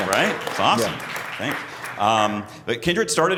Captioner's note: crowd Applauds